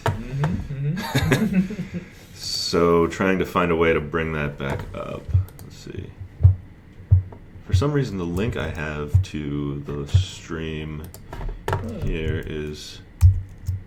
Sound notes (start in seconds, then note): 0.3 laughs; 0.3 chuckles